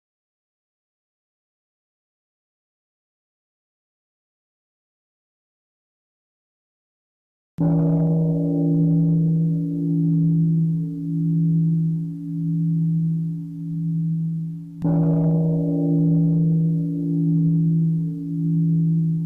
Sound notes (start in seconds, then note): 7.7 three sounds of the bell